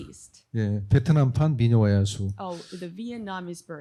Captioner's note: speaking korean